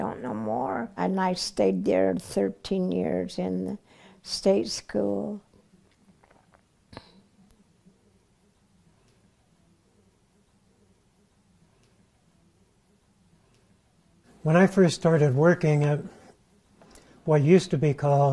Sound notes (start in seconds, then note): 6.2 throat swallow